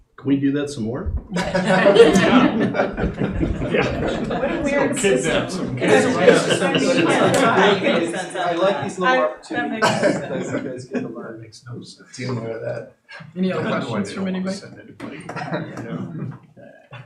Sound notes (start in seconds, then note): 6.6 laughter